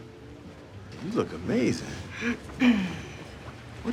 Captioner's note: clears throat